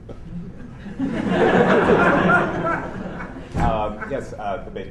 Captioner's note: laughter